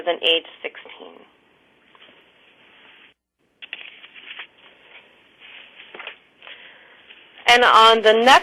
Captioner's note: pause